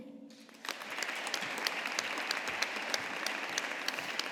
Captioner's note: audience applauding